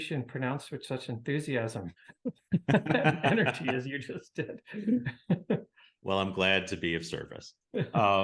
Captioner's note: both laugh